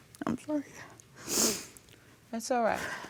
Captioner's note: voice breaking; sniffles